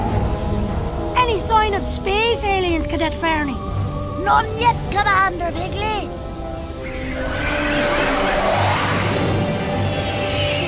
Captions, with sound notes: - Any sign of space aliens, Cadet Ferny? - None yet, Commander Piggley. (engine soars)